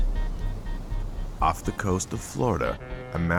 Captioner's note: horn blaring